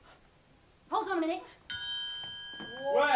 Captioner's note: ping